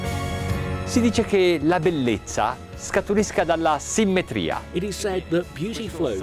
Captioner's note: speaking foreign language